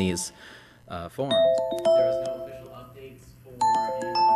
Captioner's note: timer ringing